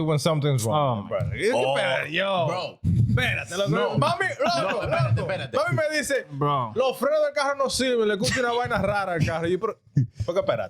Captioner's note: speaking In Foreign Language